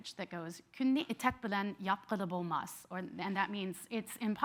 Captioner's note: speaking in foreign language